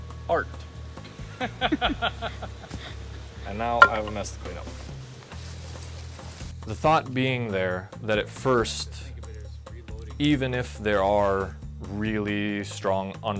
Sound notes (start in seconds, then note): 1.6 man laughing